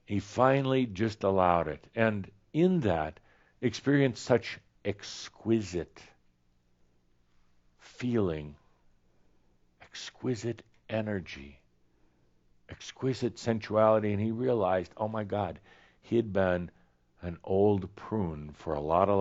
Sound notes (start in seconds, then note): none